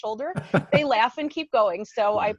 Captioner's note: laughing